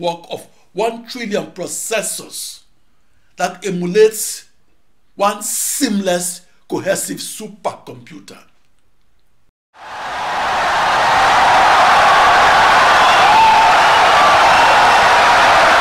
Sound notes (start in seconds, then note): 9.7 wild applause and cheering for 17 seconds